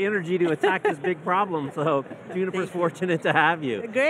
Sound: laughing

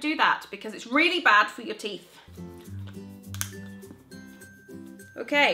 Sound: seal cracking

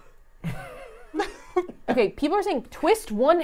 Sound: laugh

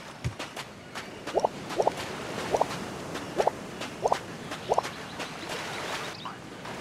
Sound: steps

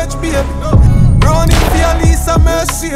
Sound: gun fires

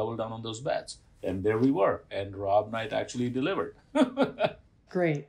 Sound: laughter

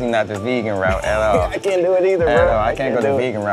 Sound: laughs

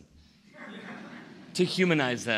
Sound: laughter

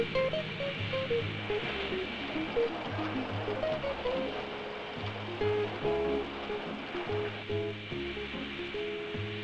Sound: sound of machinery

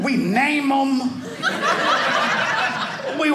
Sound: audience laughing

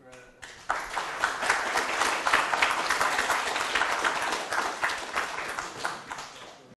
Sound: applause

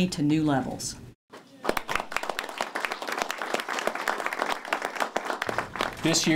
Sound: applause

